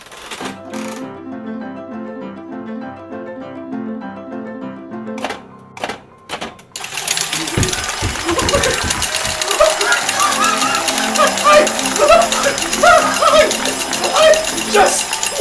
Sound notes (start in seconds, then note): 0.1 piano music and the sound of a slot machine; 6.7 sound of a jackpot, slot machine dispensing coins